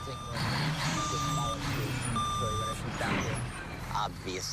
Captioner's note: beeping continues; engine revving